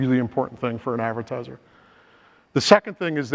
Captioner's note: inhales